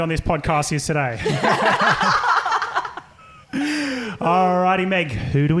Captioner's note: laughing